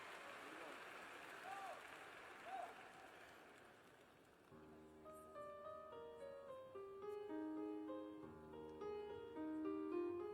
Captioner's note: cheers and applause